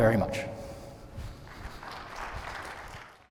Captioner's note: applause